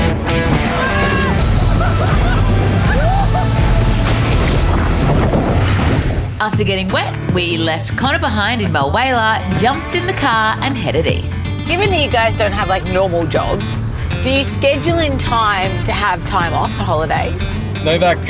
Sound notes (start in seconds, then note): 0.0 upbeat music; 3.8 all cheering